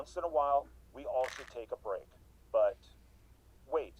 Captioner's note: pills rattling